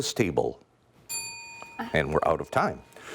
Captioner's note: ding